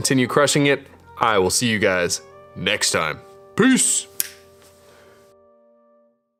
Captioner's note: fingers snap